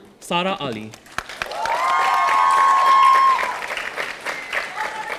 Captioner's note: audience applauding